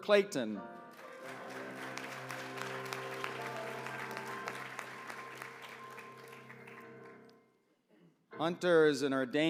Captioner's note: applause